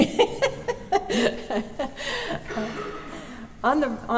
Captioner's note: laughter